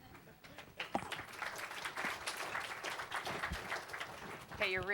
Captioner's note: applause